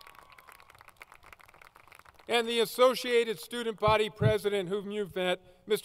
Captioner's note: applause